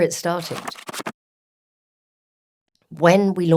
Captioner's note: pages flipping